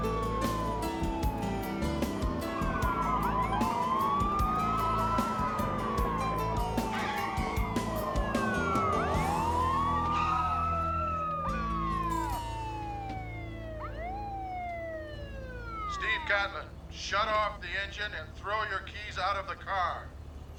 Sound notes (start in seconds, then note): 6.9 tires screech; 8.2 sirens blaring; 16.0 over megaphone